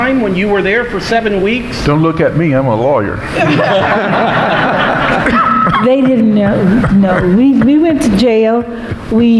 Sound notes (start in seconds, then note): 3.2 audience laughing